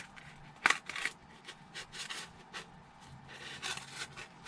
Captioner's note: scraping